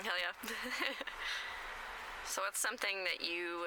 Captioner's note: laughs